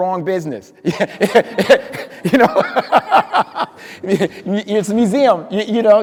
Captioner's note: speaker laughing